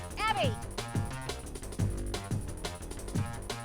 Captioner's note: shouting